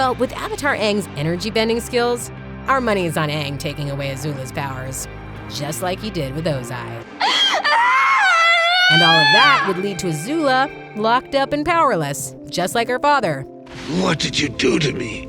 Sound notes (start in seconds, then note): 7.2 crying